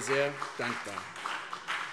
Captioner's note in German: Beifall CDU und BÜNDNIS 90/DIE GRÜNEN